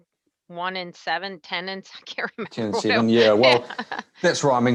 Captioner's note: laughs